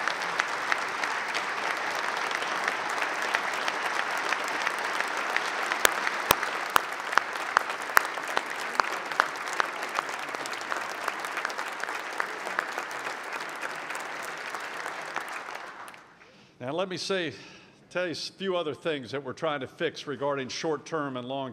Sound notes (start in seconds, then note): 3.5 applause